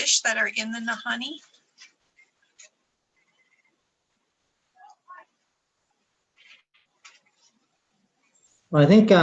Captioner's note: silence